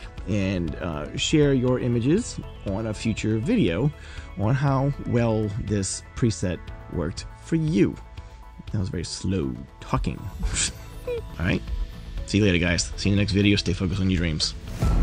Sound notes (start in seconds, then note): 10.4 chuckles